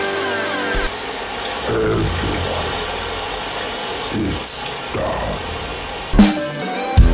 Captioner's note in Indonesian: venom voice